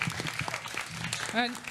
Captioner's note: applause